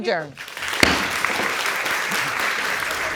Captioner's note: applause